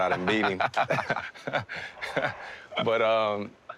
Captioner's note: laughing